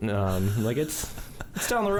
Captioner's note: chuckles